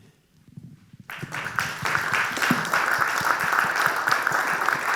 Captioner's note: audience applauding